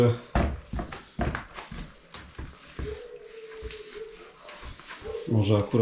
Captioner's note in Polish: szczekanie psa